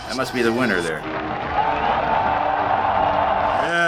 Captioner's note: cheers and applause